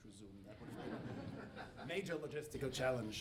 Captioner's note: audience laughing